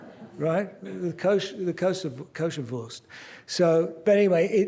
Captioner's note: non-english